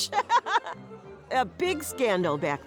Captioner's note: joyful chortle